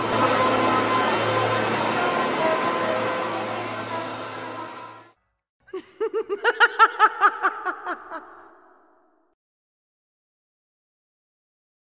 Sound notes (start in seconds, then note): 5.7 evil laugh; 9.2 silence